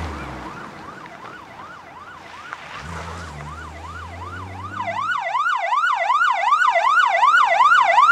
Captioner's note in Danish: Politi sirener høres i baggrunden